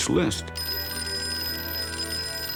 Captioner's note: phone ringing